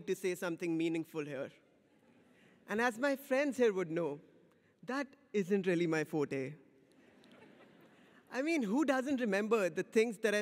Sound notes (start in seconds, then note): 7.1 audience laughs